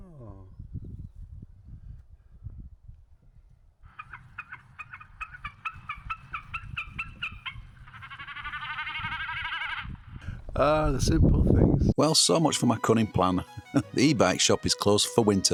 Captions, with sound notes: Aww. (birds chirping) Ah, the simple things. Well, so much for my cunning plan. The e-bike shop is closed for winter.